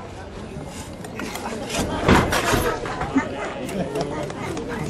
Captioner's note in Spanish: el público ríe